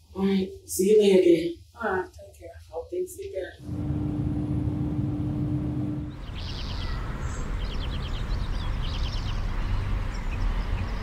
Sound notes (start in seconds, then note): 3.6 car engine humming; 5.7 birds chirping